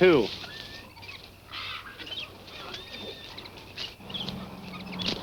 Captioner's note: birds chirping